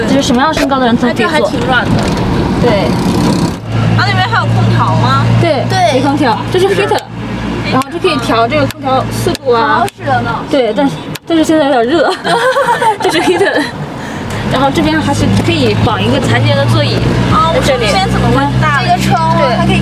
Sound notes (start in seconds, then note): 11.9 ha ha ha ha